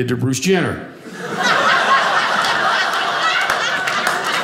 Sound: audience laughing; audience applauding

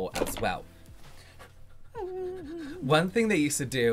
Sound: dropping stuff on the desk

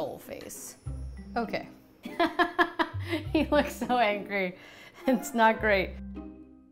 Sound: laughs

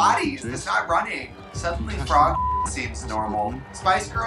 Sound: beep

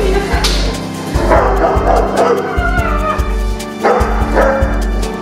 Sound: high-pitched noises; dogs bark

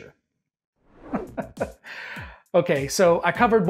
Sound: ha ha ha

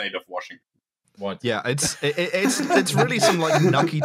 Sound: laughter

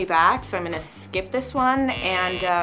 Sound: buzzer sounds

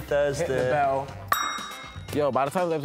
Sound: bell rings

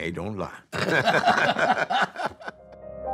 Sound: both laugh; gentle music

